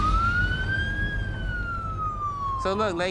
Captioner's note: siren